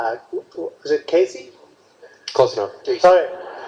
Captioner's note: crowd laughs